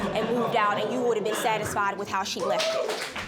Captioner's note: audience cheering